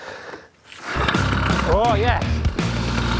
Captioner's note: motor starts